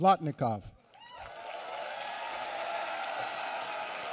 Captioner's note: applause and cheering